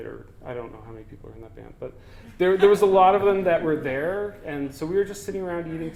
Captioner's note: audience: Laughter